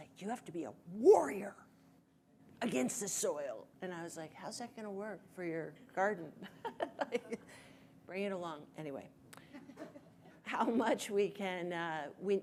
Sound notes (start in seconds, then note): 7.6 laughs